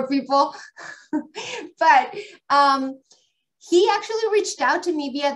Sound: laughs

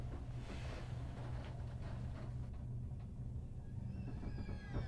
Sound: creaking

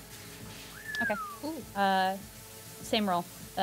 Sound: whistle

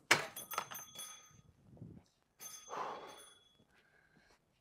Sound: door bell jingling; Ezra sighs

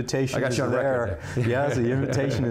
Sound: laughs

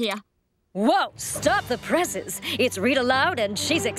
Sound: none

